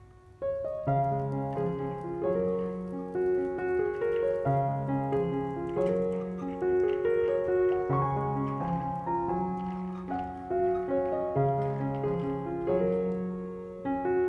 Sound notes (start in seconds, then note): 2.3 birds singing; 11.8 kid's bike going along the path